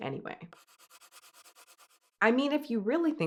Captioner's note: pencil scratching